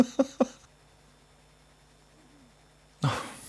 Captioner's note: laughing